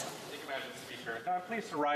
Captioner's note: speaking French